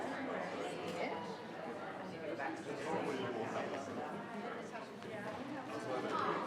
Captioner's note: group quietly conversing